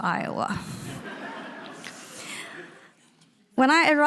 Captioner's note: audience laughing